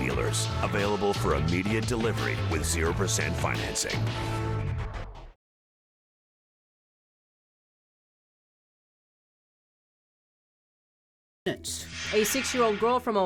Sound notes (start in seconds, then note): none